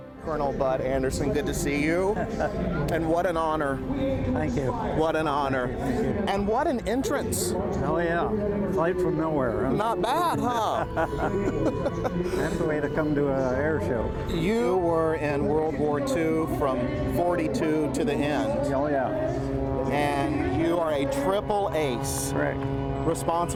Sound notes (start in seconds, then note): 10.0 both laugh